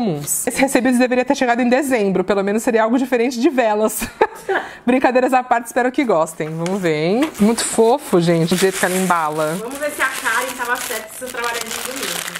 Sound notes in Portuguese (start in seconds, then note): 4.0 risos